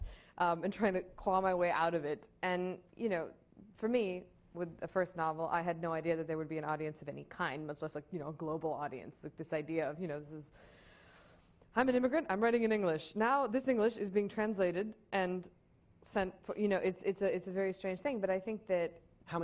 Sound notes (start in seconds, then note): none